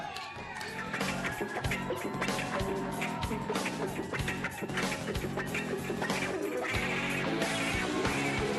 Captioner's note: cheering